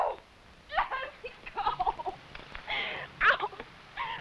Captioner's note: cries